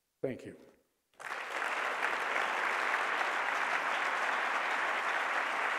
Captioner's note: applause